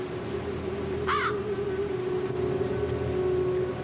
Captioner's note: caws once